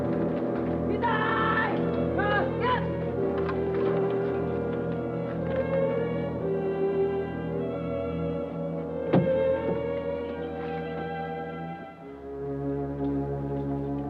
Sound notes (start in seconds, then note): 1.3 soldier yells in Japanese; 5.0 deep somber music